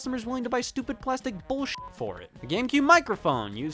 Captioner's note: beep